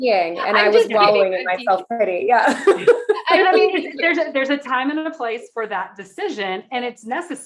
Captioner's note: everyone laughing